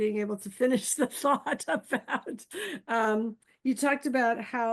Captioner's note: chuckles